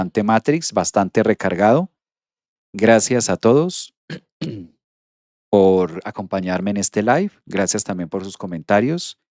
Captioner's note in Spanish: carraspeo